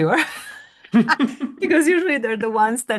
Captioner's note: both laugh